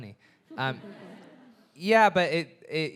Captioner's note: audience laughing